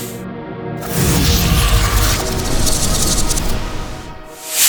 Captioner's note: whoosh